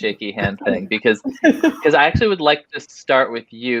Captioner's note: all laughing